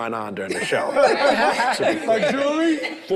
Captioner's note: group laughs